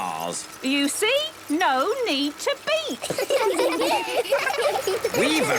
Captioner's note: laughter